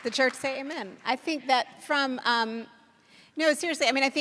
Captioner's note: applause